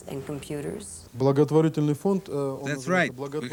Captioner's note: speaking foreign language